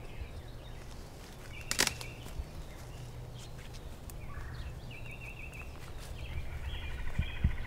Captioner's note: birds chirping; twigs snapping